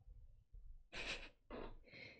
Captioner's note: chuckles